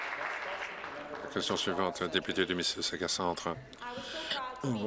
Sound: applause

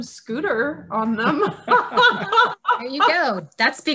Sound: laughing

